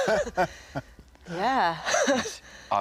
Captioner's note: all laughing